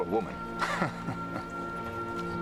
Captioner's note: laughing